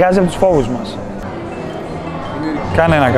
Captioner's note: the cell phone rings